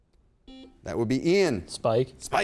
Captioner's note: buzzer beep